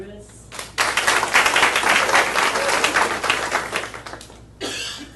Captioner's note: audience applauding